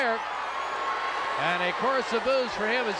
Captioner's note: audience booing